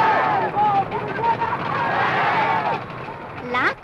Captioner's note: cheering